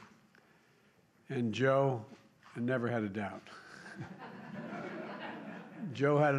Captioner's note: laughter